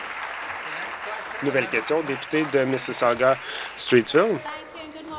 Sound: applause

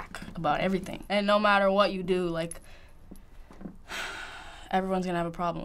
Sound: sighing

